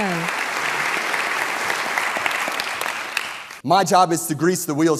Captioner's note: audience clapping